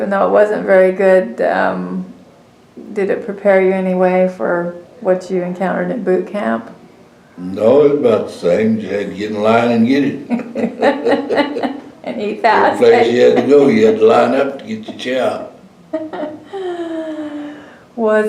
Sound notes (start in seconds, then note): 14.9 laughter